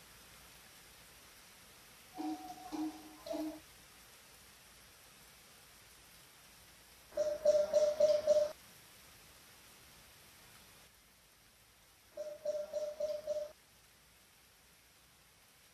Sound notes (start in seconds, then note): 2.2 instrument Playing; 2.3 rain Pouring